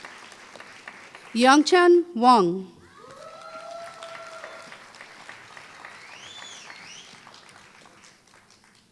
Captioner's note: applause